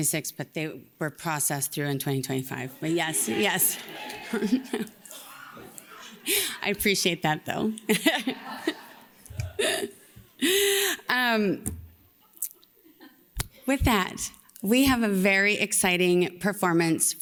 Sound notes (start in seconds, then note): 2.8 laughs